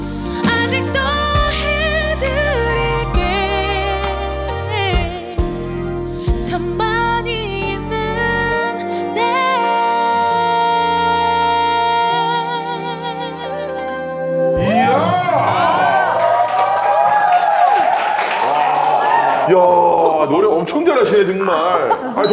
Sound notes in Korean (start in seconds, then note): 15.9 박수 갈채